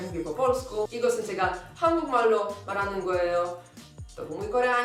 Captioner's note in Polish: Mówi po koreańsku